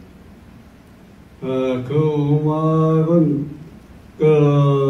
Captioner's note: in foreign language